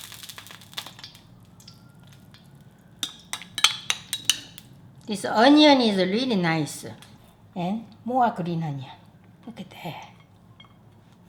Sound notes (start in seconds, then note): 3.0 spoon clinking